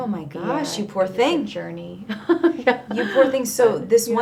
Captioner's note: laughing